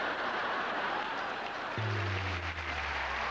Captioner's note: laughter